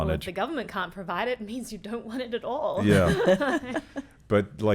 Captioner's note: laughing